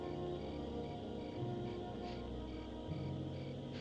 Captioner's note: sniffing